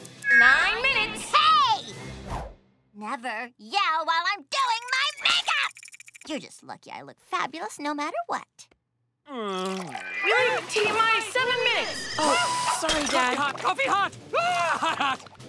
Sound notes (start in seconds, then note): 9.9 megaphone feedback; 10.2 yelps